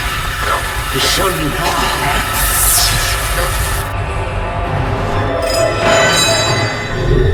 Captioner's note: electric buzzing